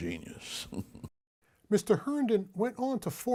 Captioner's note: chuckling